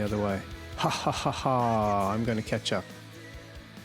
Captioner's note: laughs